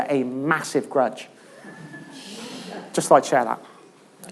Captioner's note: laughter